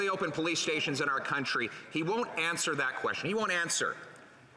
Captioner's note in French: voix de l'interprète